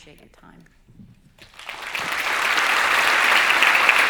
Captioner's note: applause